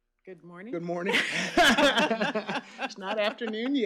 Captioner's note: laughs